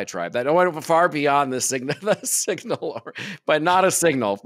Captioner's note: chuckles